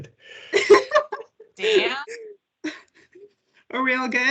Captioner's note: laughs